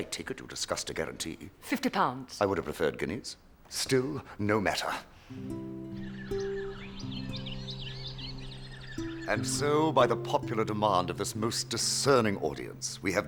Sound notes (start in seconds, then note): 5.2 bird chirping